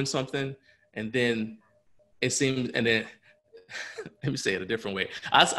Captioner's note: laughs